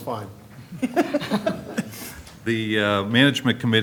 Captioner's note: laughter